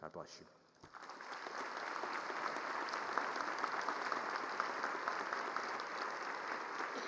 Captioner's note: applause